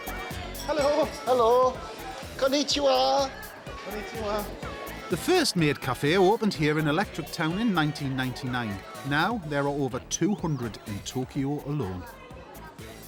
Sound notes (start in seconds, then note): 3.2 speaks in Japanese; 4.8 Dave speaking Japanese